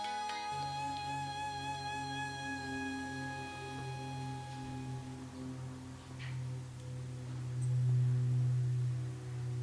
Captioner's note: music and airplane noise